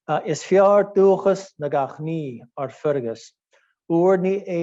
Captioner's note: speaking in Gaelic language